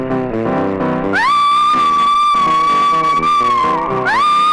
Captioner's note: screaming